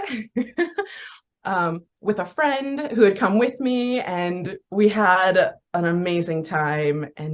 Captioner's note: laughs